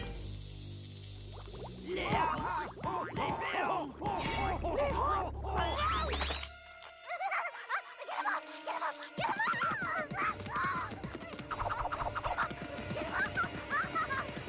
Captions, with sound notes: [sizzling] [groaning] [screaming] GET THEM OFF! GET THEM OFF! GET THEM OFF! GET THEM OFF!